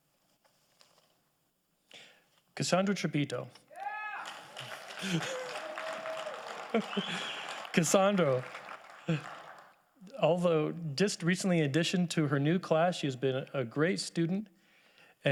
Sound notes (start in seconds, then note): 3.8 audience applauding; 4.9 chuckles